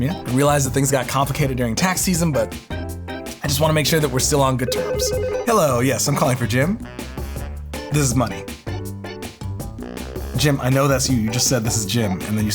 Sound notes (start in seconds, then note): 4.6 phone rings